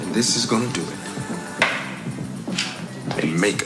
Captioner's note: bang